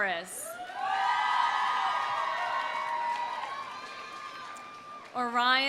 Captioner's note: audience cheering; audience applauding